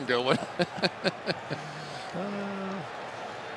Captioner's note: laughter; laughs